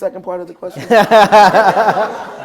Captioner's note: laughter